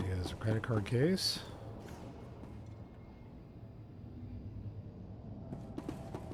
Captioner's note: gunshots